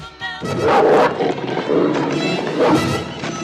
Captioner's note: snarling